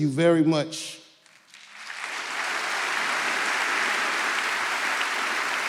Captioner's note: audience clapping